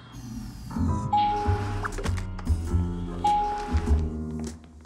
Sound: elevator dings

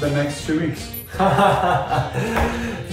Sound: Eugene laughs

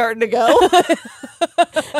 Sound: both laughing

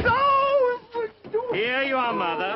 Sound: yelping

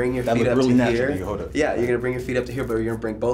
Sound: none

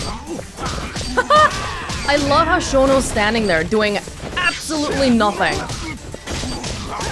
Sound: chuckles

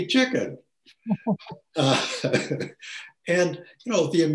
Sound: laughs

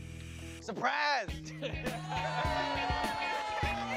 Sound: all cheering

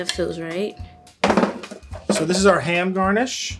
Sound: tray clattering

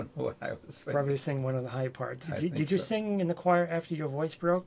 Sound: both laugh

